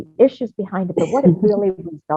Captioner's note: person coughing